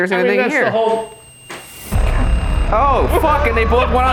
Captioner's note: REM-Pod beeps; ominous music